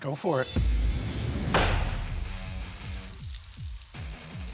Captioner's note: banging